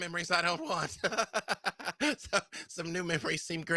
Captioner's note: laughs